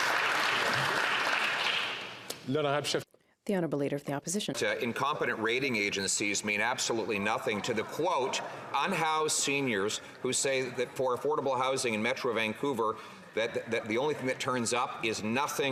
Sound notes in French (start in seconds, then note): 7.0 voix de l'interprète